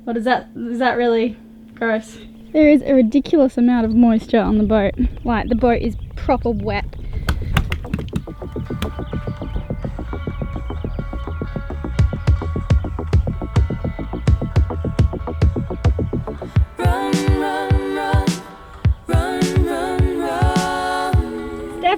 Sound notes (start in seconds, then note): 7.6 feet splashing in water; 9.8 upbeat rhythmic music